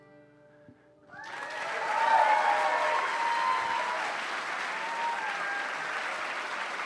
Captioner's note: applause and cheering